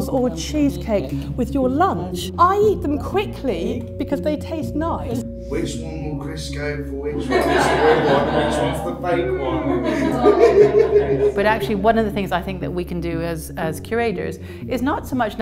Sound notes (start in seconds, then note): 9.9 laughter